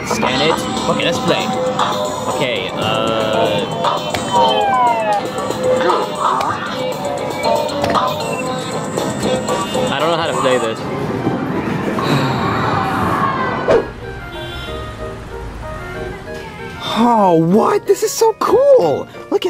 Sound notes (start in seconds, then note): 3.8 electronic game music; 11.9 Mario sighs; 13.9 air whooshing